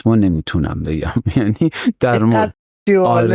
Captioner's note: laughs